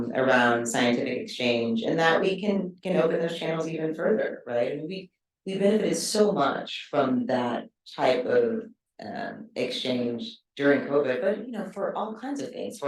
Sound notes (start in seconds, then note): none